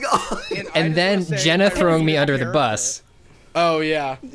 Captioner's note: pat